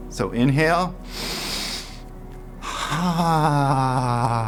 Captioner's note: inhaling